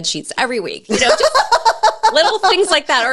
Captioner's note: laughs